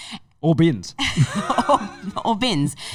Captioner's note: laughing